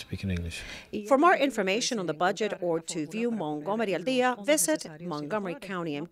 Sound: speaking spanish

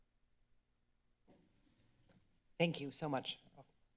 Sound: rustling sound; silence

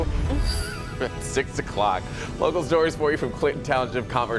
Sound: laughter

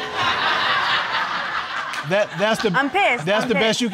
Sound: audience laughing

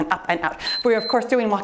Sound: timer beeps

